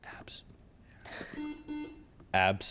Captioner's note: buzzer chimes